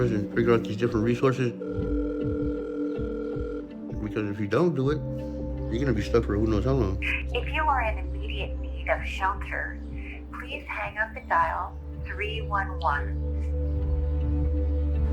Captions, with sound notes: and figure out these different resources. [Telephone ringing] Because if you don't do it, you're going to be stuck for who knows how long. If you are in immediate need of shelter, please hang up and dial 311.